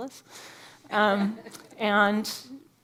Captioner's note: audience laughing